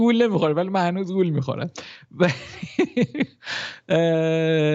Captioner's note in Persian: خنده